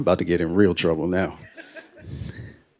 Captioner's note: laughter